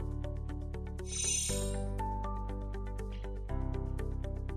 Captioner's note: chiming